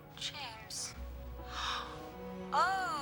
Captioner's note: gasps